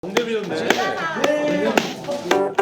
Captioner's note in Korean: 친구들 떠드는 소리